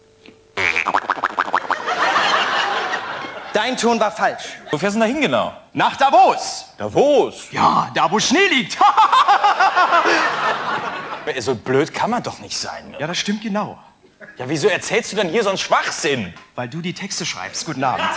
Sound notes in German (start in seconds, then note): 8.7 Gelächter